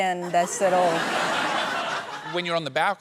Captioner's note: laughter